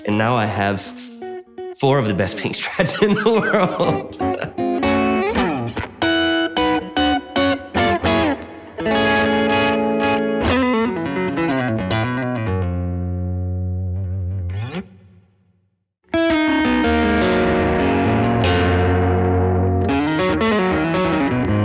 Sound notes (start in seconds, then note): 4.1 laughing; 6.1 guitar playing